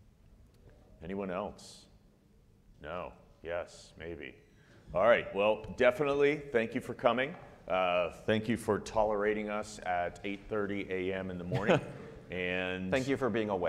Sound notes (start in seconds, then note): 11.4 laughs